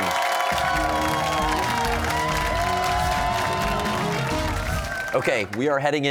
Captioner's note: cheers and applause